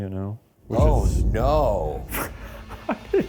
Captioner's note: laughing